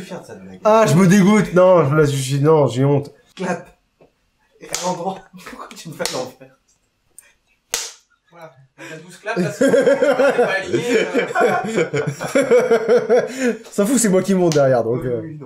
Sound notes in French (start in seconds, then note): 3.4 bruit de clap; 7.7 bruit de clap; 9.3 Rires